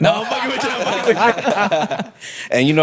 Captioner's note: laughing